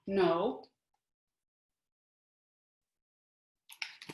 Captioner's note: silence